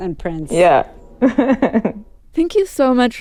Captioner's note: laughter